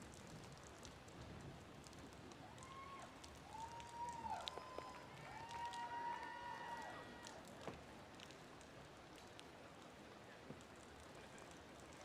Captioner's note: applause